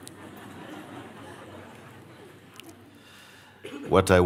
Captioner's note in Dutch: gelach